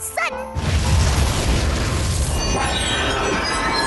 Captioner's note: boom!